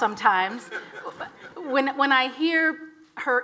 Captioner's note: audience laughs